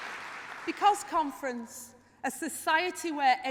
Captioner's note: applause